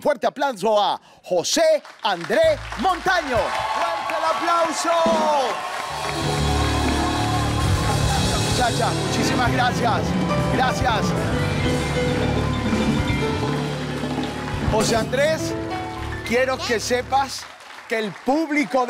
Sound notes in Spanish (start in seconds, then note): 3.5 Gritos